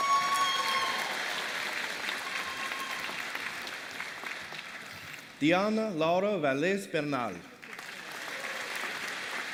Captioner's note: applause